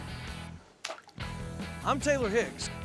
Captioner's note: splash